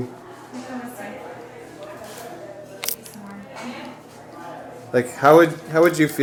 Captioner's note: crowd chatting in foreign language